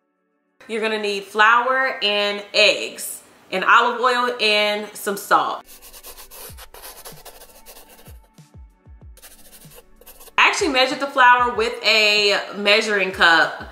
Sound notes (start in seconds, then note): 5.7 chalk brushing; 5.7 muffled gentle music